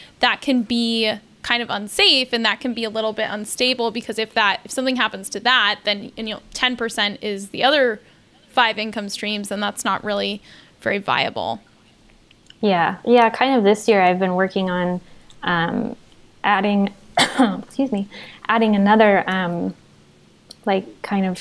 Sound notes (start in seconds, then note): 17.1 coughs